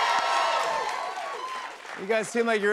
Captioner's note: cheers and applause